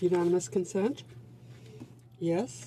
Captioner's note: speaking French